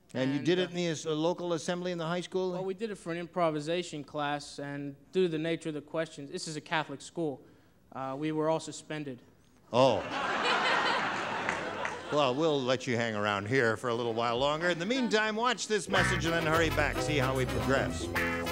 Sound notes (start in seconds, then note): 9.9 laughter